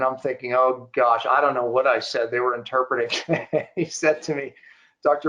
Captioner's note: giggling